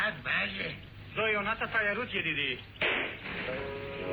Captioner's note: speaks Hebrew